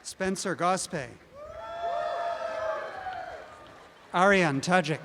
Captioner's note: audience cheering